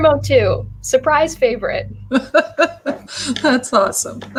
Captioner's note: laughter